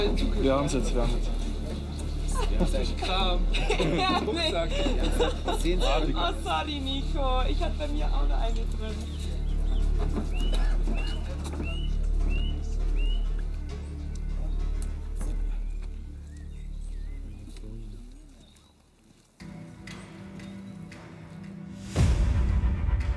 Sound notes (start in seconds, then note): 2.2 laughter; 15.1 motivating music